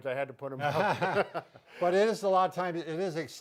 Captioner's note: both laughing